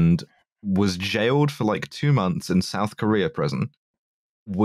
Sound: none

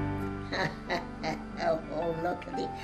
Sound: laughs

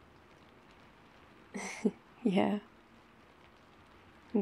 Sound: laughs

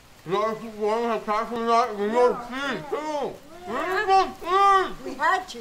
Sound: Thomas mumbles about cheese

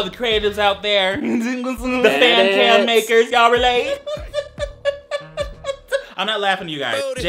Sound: laughs

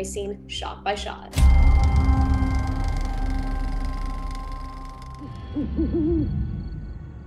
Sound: dramatic music; camera clicking

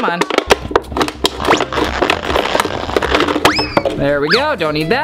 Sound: bottle crinkling

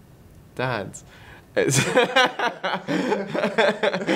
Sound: laughs

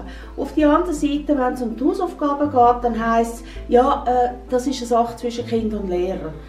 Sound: woman speak Swiss German

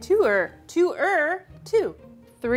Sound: speaking in mandarin

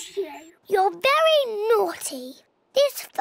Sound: none

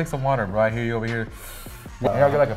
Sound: inhaling sound

